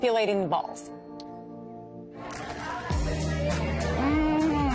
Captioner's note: laughs